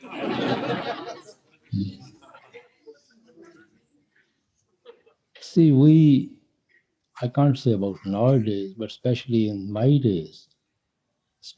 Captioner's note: laughter